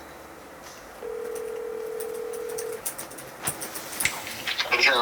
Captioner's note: ringing